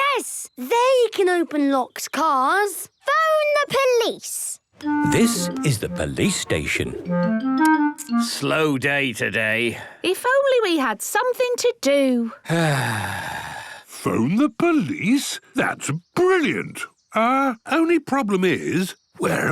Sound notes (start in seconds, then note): 12.4 sighs